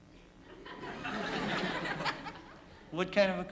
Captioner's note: laughter